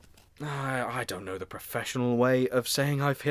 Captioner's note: huffs Tiredly